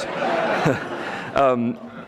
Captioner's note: audience laughing